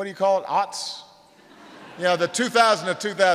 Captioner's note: laughter